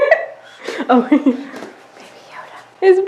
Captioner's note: laughs; whispers